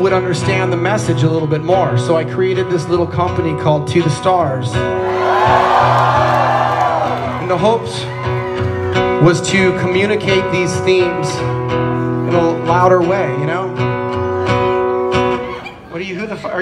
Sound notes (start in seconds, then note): 5.0 crowd Cheers